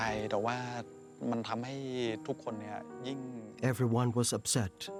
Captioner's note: speaking Thai